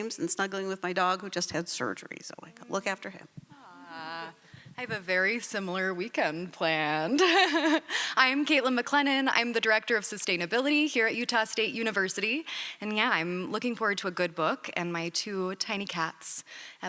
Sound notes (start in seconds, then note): 7.1 laughs